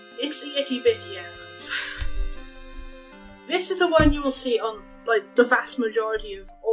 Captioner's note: laughs